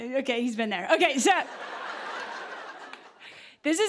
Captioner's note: laughter